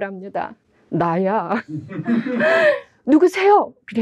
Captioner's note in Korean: 웃음